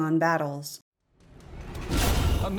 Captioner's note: metallic slice